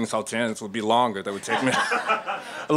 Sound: laughter

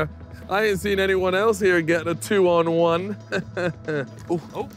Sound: laughs

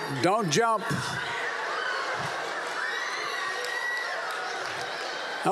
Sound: laughter

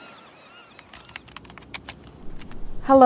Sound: seagulls; waves crashing; harbor noises in background; typing

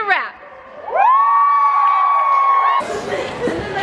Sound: cheers

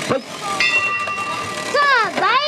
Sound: bell rings

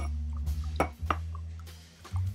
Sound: clinking of glass; soft music

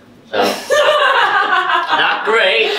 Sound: laughing

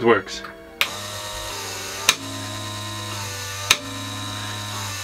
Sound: motor whirring

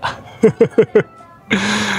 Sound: laughs

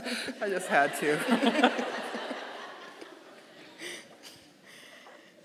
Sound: audience laughing

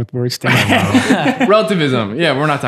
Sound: all laughing

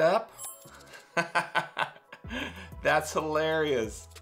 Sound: laughs

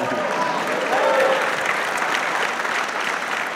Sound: audience claps

